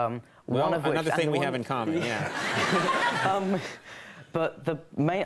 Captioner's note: crowd laughs